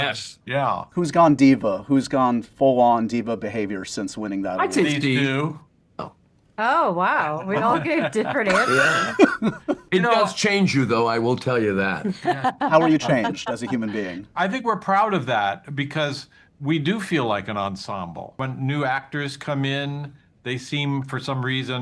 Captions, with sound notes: -Yes, yeah. - Who's gone diva? Who's gone full-on diva behavior since winning that? I’d say Steve. -These two. Oh, wow. We all gave different answers. [LAUGHTER] It does change you, though, I will tell you that. How were you changed as a human being? I think we're proud of that because we do feel like an ensemble. When new actors come in, they seem, for some reason--